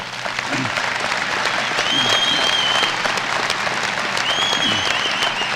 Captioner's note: applause and whistling